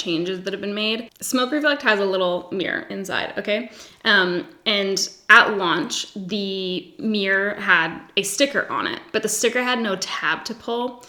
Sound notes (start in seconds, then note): none